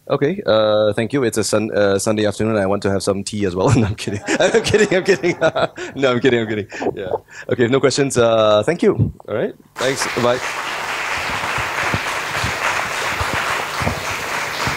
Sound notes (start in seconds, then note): 9.7 applause